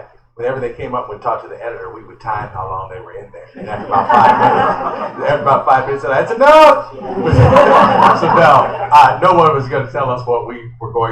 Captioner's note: laughter